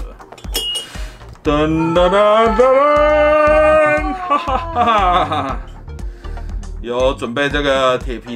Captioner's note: cheers